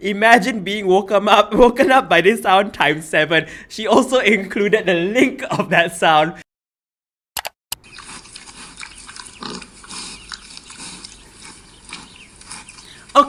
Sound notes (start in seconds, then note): 7.4 click; 7.9 snorting noises